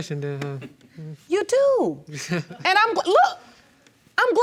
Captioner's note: chuckles